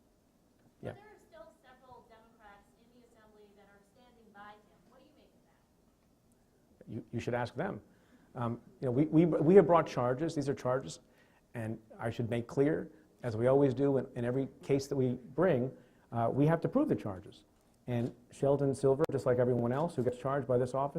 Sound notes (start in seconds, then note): 9.3 stutters